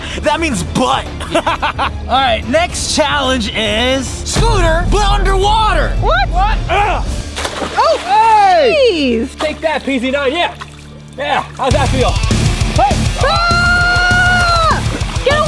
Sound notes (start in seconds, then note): 1.1 laughing; 7.7 slashing; 11.6 upbeat music